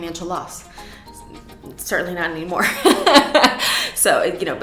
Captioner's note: laughs